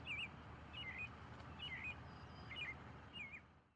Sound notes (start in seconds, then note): 1.4 birds chirping